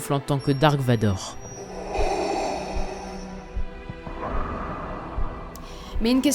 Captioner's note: Darth Vader's breath